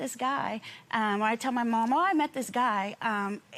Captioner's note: none